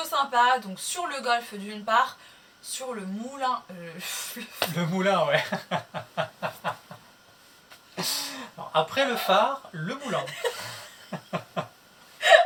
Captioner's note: laughs - the mill yes - laughs - after the lighthouse the mill laughs